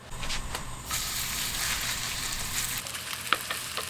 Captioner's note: sizzling